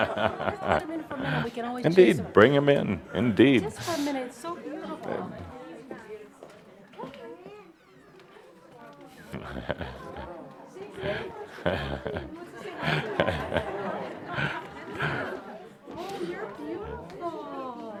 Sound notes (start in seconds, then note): 0.0 laughter; 4.2 laughter and comments as the dog is allowed in and walks among the audience